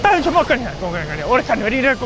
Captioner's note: Hindi